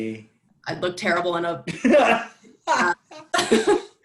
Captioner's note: laughter